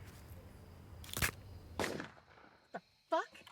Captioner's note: neck snapping; gun firing